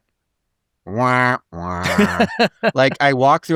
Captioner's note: laughing